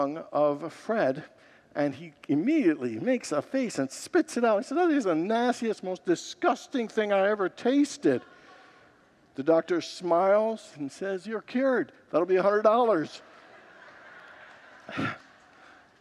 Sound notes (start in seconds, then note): 8.0 congregants laugh; 13.0 congregants laugh